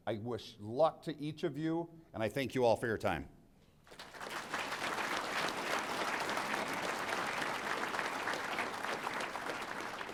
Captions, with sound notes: I wish luck to each of you, and I thank you all for your time. (audience applauding)